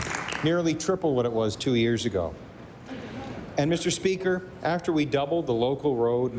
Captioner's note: applause